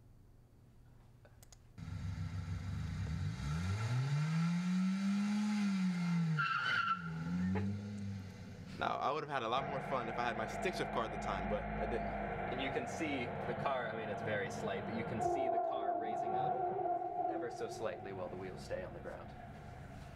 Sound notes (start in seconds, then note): 3.6 car revving; 6.6 tires squealing